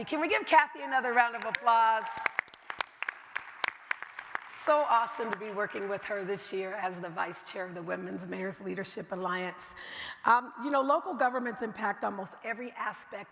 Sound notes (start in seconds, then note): 1.4 everybody applauding